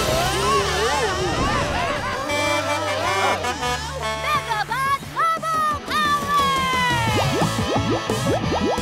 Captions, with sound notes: [honking] Megabot bubble power!